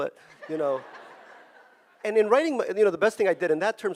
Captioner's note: audience laughing